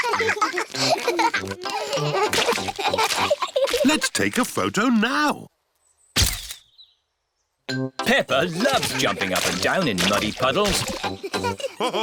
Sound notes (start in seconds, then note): 0.0 both giggling; 6.3 camera clicks